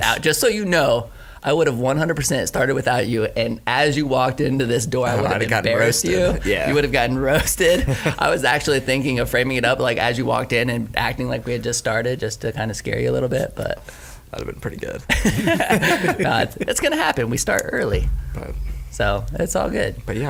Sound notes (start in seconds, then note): 15.1 laughing